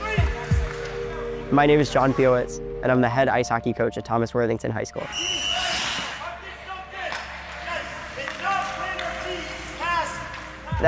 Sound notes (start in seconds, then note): 5.0 whistle blow